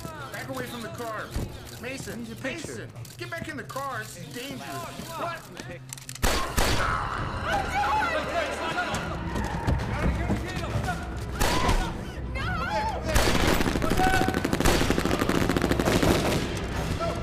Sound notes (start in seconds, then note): 6.2 gun firing; 11.4 gun firing; 11.6 Nikita screaming; 13.1 guns firing